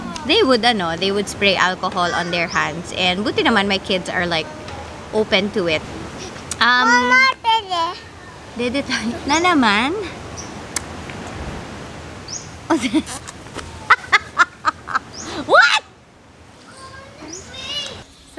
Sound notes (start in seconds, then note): 13.7 laughs